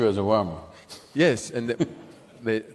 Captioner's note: laughs